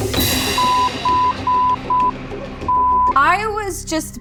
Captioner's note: beeping